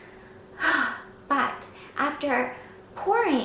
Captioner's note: sighs